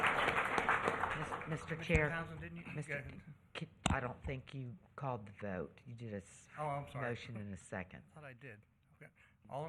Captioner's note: applause